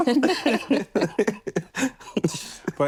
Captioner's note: laughter